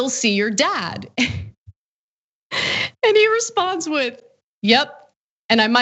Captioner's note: laugh